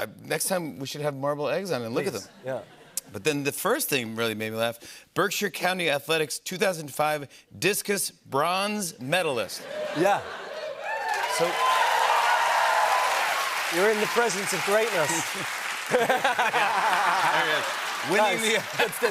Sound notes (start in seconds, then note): 10.6 cheers and applause; 15.8 laughter